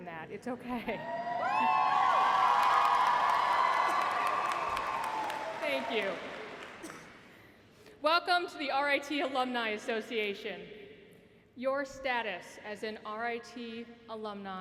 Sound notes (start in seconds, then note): 3.2 cheers and applause